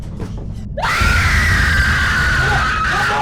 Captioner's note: Shelby screams